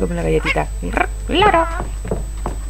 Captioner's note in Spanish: imitando el garrido del loro